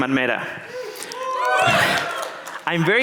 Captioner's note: audience cheering